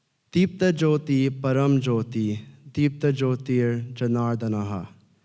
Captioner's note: speaking in foreign language